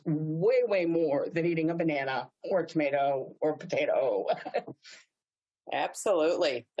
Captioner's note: laughs